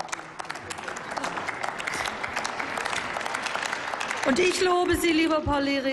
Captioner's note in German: Applaus